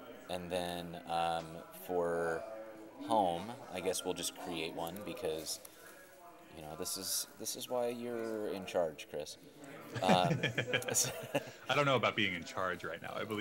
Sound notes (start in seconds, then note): 9.9 laughing